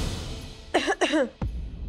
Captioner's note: coughing